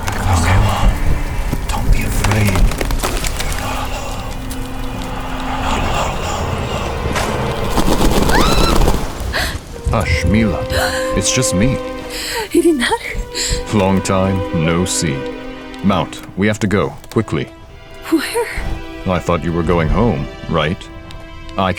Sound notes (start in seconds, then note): 8.2 Mila screams; 11.9 Mila gasps